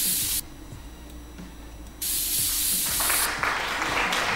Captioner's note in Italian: Applauso